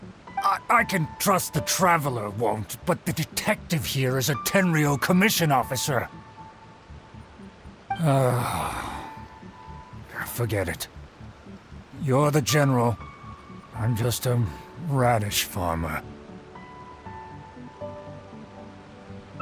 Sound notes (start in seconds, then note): 8.0 sigh